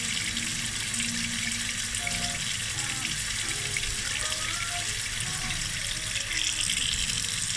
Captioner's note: sound of water falling from a tap